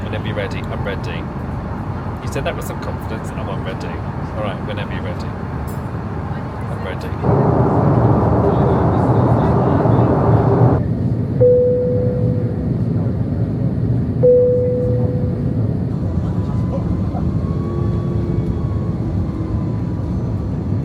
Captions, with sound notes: Whenever you're ready, I'm ready. You said that with some confidence and I'm ready. All right, whenever you're ready. I'm ready. (engine humming) (crowd chattering) (plane beeping) (engine humming)